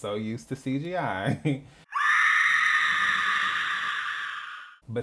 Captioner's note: bloodcurdling Scream